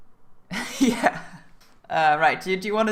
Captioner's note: laugh